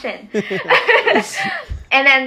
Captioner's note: person laughing